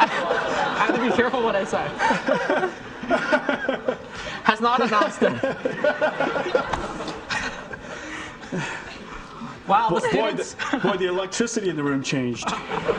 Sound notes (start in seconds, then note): 2.0 Jensen laughing